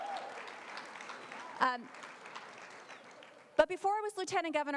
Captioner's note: applause